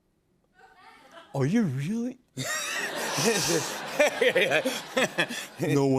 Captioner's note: laughs